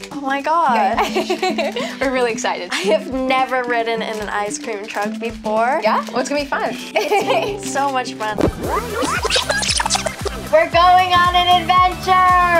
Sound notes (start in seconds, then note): 1.0 laughs; 7.0 laughs; 8.3 video tape whining